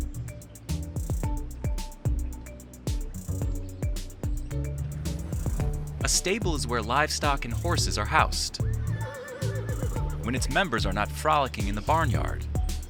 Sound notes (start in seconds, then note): 0.2 bright music continues; 8.6 horses neighing